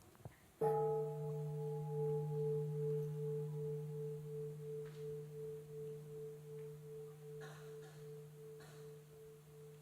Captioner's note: bell